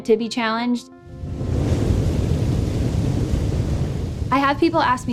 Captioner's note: waves crashing